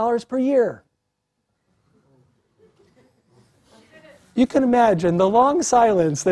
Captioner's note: laugh